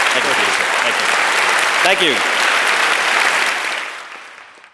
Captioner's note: applause